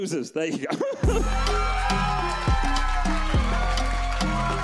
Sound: audience cheers

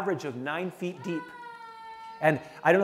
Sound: toddler crying

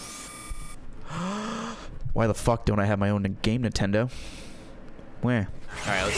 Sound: inhales

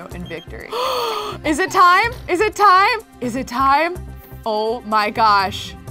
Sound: gasps

